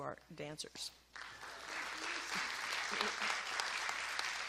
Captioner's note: applause